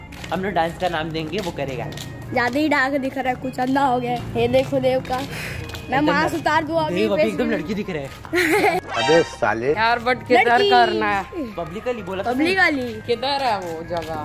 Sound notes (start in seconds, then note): 5.5 sighs; 8.3 laughs